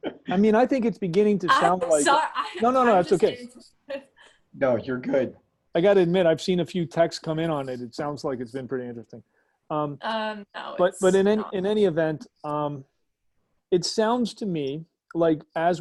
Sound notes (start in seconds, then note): 3.2 giggles